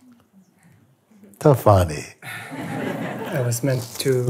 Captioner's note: Lachen